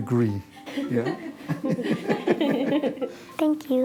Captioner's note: laughter